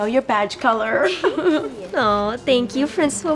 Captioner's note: giggles